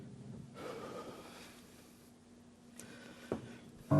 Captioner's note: he sighs